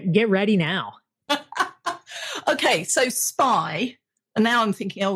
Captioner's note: laughs